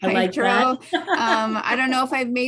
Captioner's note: laughs